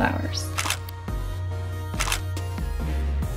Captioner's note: clicking; upbeat music